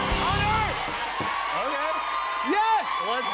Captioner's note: cheers and applause